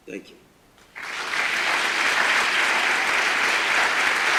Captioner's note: roaring applause